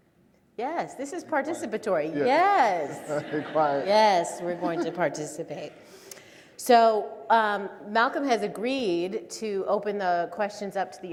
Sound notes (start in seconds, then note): 2.6 audience laughs; 4.3 laughing